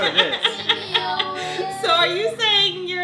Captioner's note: laughing